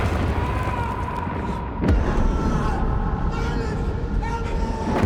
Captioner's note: echoing screams